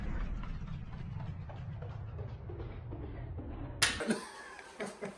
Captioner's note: slow Motion sound effect; laughing